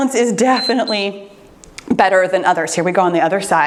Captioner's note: timer beeps